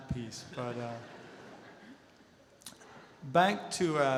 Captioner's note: audience laughter